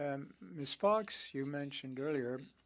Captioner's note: speaking French